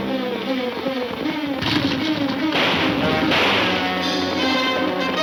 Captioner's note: gunfire pops